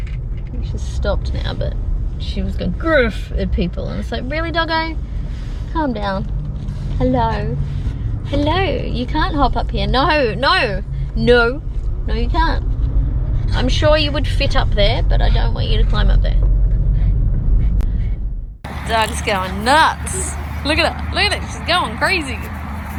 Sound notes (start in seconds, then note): 16.7 continues making huffy noises; 18.6 loud traffic in background